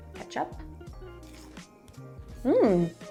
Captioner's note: potato crunches